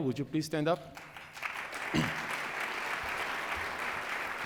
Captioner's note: applause